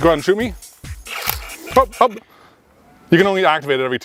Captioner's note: Nerf blaster clacking